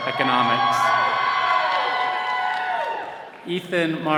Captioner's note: all cheering